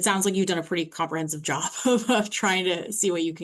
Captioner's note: chuckles